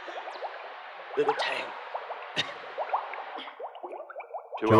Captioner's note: choke